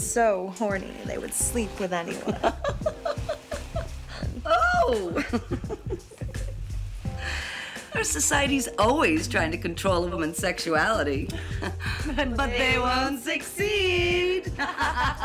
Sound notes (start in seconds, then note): 2.2 laughs; 14.5 laughter